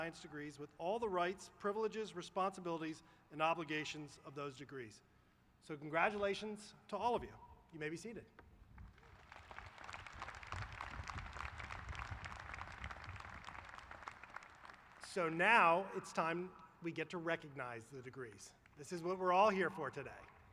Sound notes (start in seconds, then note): 8.7 applause